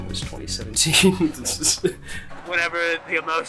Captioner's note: laughs